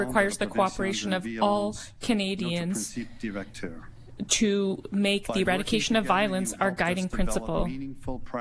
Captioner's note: speaking French